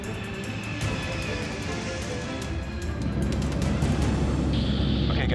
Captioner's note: intense music; plane taking off